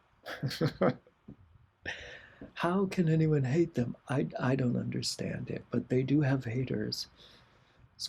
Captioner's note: laughter